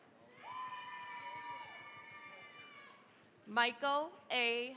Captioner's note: cheering, applause